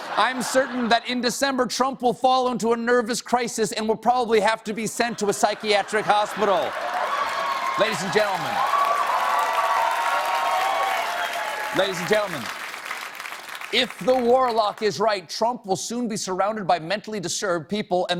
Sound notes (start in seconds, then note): 10.0 cheers and applause